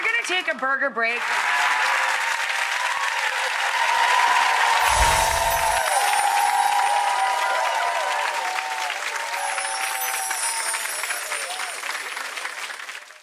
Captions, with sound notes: We're gonna take a burger break. (applause)